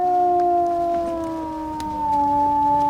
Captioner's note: howls